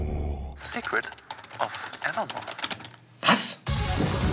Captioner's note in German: Schnelle Tastengeräusche; Drängende Musik